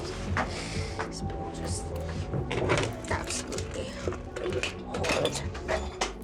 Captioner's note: muttering